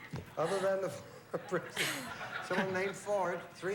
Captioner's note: laughing